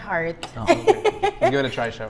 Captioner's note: laughs